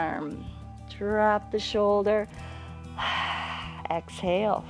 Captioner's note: exhales; inhales and exhales